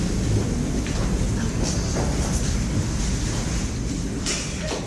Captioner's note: papers rustling